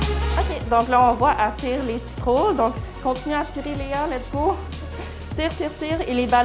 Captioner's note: clinician speaks foreign language